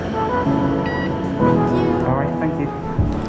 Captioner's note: barcode reader beeps